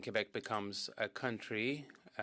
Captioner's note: speaking French